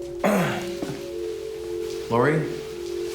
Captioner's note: clears throat